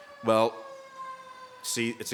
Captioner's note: ambulence siren sounding